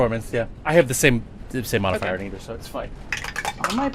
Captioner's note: dice clacks